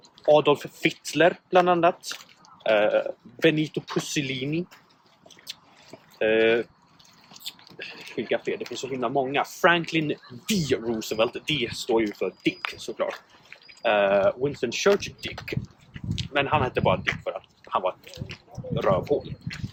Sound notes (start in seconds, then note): 5.1 lip smack; 7.5 second lip smack